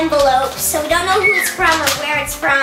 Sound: whistling

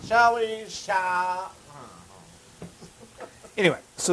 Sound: laugh

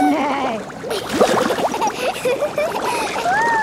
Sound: giggling, neighing; giggling

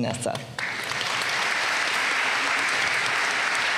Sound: applause

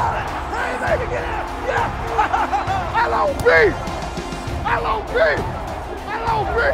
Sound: laughs

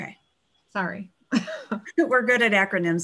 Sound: chuckles

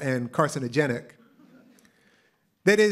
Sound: laughter

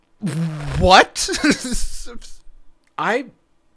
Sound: laughing

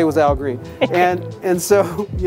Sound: interviewer laughs

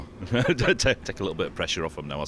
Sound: laughs

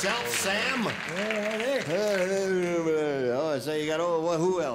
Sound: both speaking nonsensically

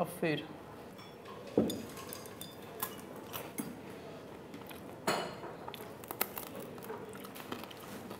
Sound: chewing sounds, ambient noise

